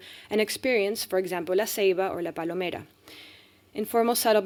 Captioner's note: speaking spanish